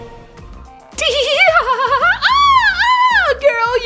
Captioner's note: high pitched laughter